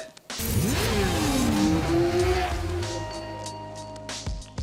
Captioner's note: bike engine revving